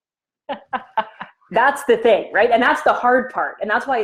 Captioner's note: laughing